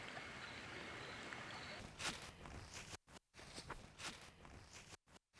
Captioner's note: leaves crunching